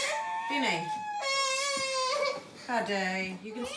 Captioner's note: sobs